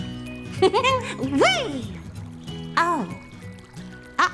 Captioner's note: laughing